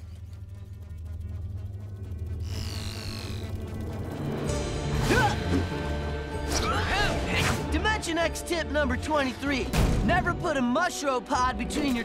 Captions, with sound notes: [grunting] Dimension X tip number 23, never put a mushropod between your toes.